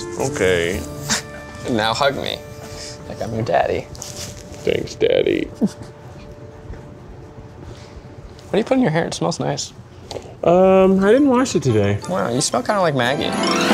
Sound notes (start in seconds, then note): 5.5 laughs; 13.4 lively big band music